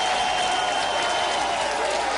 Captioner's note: applause